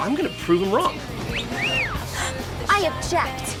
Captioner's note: whistling